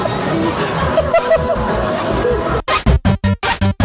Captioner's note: laugh